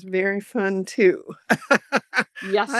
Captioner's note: laughs